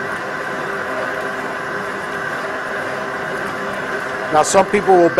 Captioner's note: machine Noise